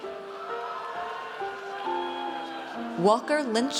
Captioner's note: audience cheers